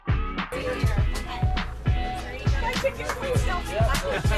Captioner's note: chatter